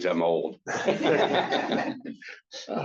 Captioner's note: laughter